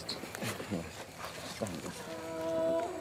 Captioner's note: düşük konuşma